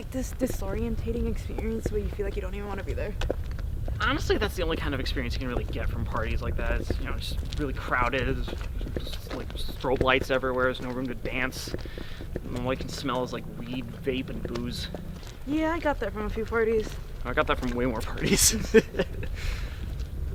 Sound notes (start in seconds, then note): 18.2 laugh